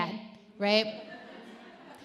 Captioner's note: audience laughs